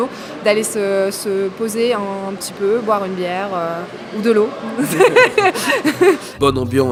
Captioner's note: laughs